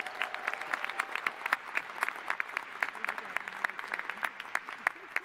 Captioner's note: applause